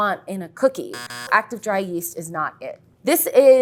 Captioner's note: buzzer sounds